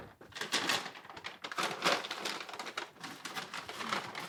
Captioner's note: bag crumples